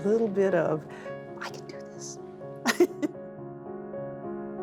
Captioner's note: laughs